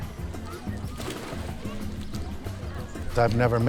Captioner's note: upbeat music; water splashing